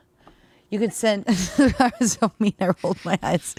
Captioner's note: laughing